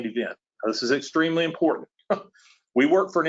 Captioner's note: laughs